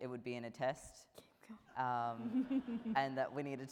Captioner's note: laughing